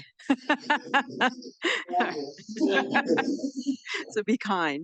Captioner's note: audience laughs